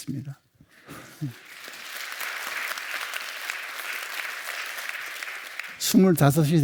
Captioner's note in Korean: 박수